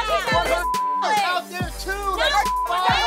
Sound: beep

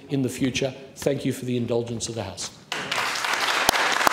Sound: applause

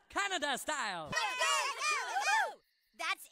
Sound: Woodland Critters Cheering

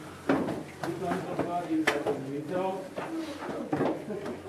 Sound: tourists chatting

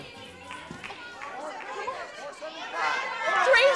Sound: crowd shouting

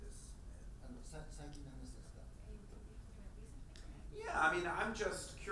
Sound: speaking in foreign language

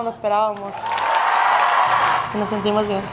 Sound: cheers

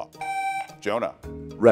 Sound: buzzer beeps

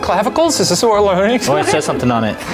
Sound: laughs

